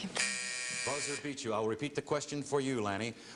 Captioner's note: buzzer